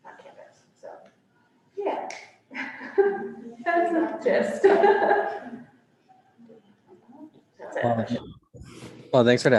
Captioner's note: laughs